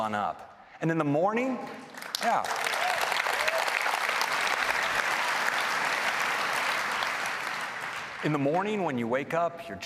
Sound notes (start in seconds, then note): 1.8 applause